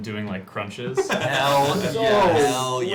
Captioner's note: laughter